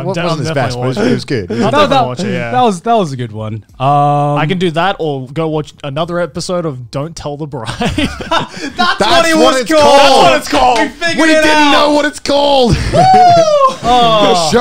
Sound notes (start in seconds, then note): 7.7 everyone laughs